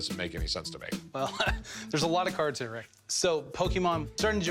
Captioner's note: laughs